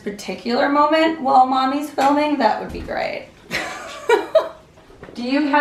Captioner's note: laughs